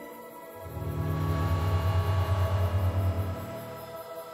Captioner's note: buzzing